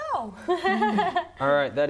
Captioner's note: laughs